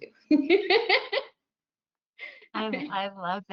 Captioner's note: laughs